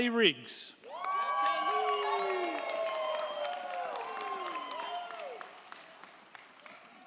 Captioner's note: crowd cheering; crowd clapping